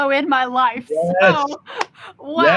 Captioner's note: laughs